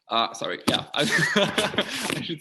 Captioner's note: laughs